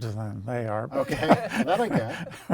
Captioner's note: laughs